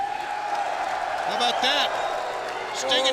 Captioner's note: audience cheering